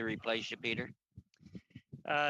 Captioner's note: laughing